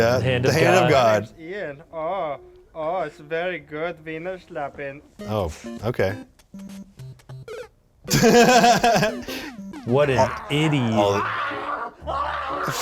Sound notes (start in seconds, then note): 8.0 laughing